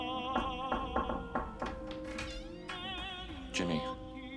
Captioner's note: opera music; singing in foreign language; light knocking at door